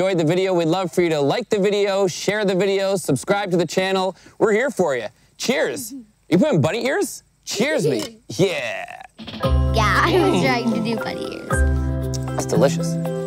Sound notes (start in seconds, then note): 10.0 laughs